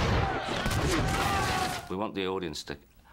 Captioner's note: indistinct screaming